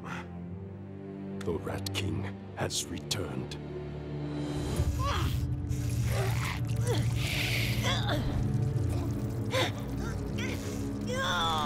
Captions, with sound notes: The Rat King has returned. [grunting] [grunting]